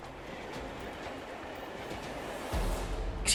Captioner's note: train track clatters